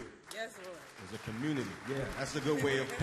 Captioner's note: applause